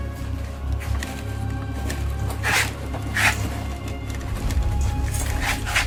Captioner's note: dramatic music; bin shaking and rustling